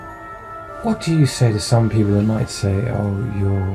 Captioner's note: voiceover